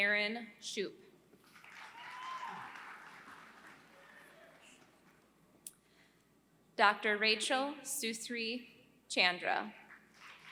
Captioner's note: applause; applause